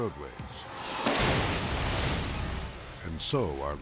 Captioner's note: bus crashing